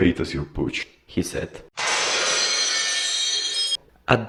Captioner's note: glass breaking sound